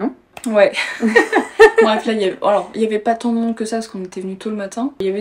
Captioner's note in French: rires